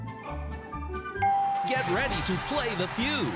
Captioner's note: ding